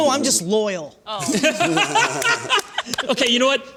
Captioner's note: laughter